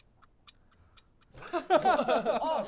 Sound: laughter

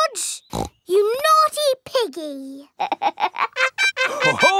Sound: snorts; laughs

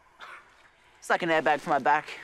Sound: chuckles

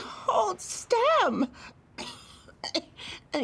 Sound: coughs

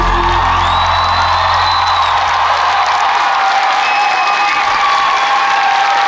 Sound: audience cheers and applauds

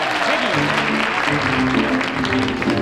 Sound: audience clapping; jazz music starts

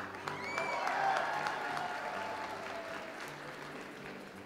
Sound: audience applauds

